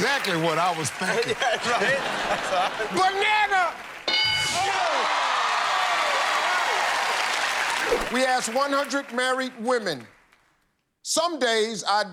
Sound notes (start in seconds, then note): 4.4 cheers and applause